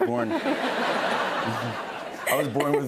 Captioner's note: laughter